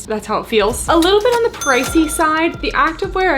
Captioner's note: cash register dings